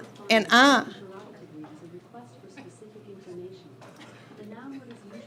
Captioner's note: digital Voice